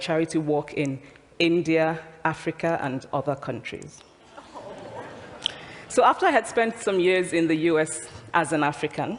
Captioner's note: laughter